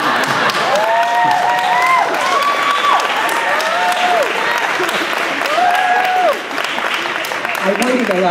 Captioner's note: applause